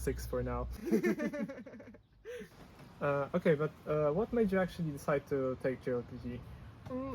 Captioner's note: laughs